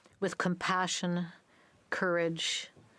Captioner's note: speaking French